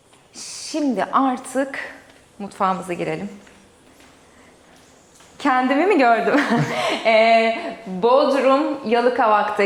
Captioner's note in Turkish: kahkaha